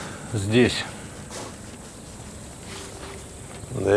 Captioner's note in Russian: вздыхает